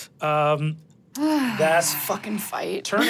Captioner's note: sighs